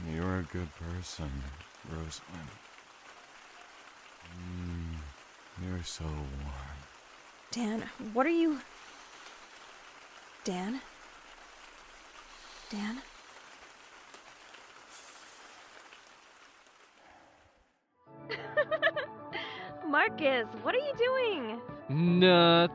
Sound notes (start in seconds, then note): 12.2 soft breaths; 20.7 soft breaths; 22.0 phone video playing